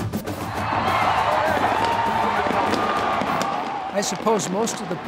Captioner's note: crowd cheering